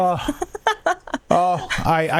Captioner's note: laughing